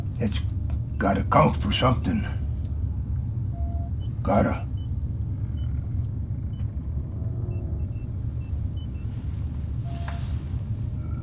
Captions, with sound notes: It's got to count for something. Got to. (machines beeping)